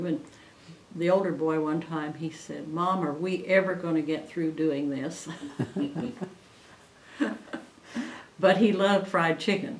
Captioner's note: laughter